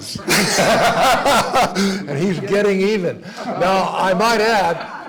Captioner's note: laugh